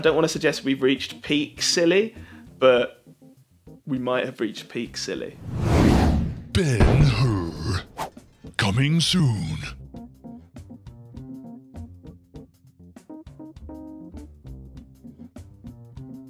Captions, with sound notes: I don't wanna suggest we've reached peak silly, but we might've reached peak silly. (swoosh) [Voiceover] "Ben Hur", coming soon.